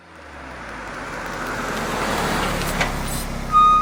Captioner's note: car coming to a stop